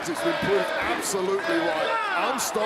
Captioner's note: crowd chants, "nxt"